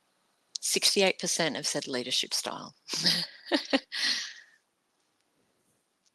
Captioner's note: chuckles